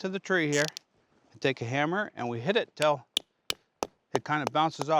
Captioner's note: hammering